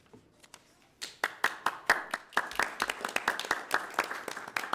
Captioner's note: crowd clapping